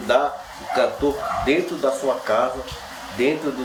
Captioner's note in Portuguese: latidos